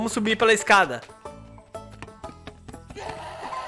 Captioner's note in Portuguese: risos